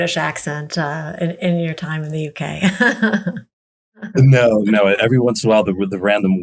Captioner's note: chuckles